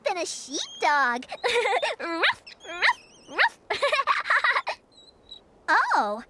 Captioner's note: giggles